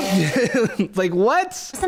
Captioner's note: imitating chainsaw